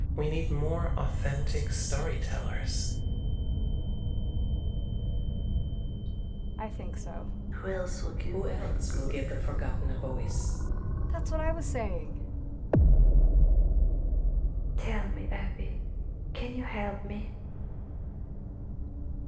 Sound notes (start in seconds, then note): 2.8 high pitched tone; 8.5 echoes; 12.4 dramatic musical score